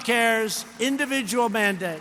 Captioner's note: applause